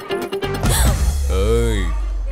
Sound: gasps

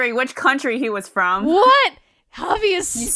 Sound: sarcastically

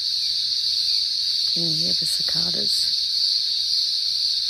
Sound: whispers

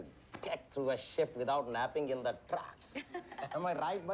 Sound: Jasleen laughing

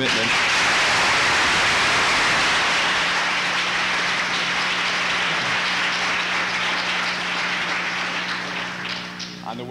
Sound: applause

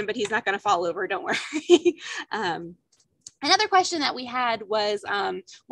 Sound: laughter

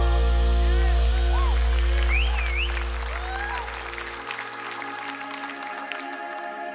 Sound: applause

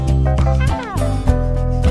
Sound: meow

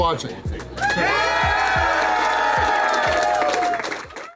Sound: crowd clapping and cheering

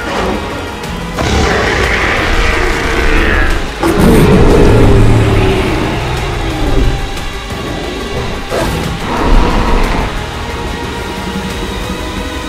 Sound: spinosaurus and T-Rex Growl Sounds

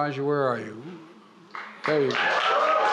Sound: applause

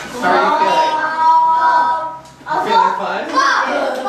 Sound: chattering

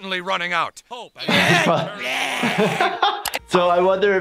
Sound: all grunting; laughing

